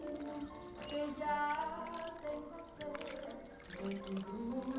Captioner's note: woman singing in foreign language; fake blood sloshing